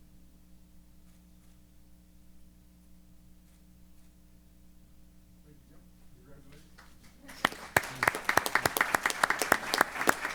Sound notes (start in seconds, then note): 6.7 applause